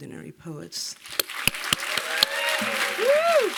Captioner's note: applause